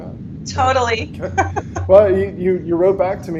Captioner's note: both laugh